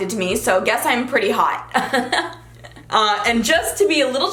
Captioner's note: laughs